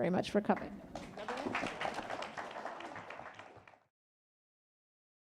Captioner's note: attendees applauding